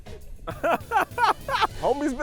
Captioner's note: group laughs